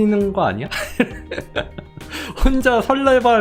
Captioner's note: laughing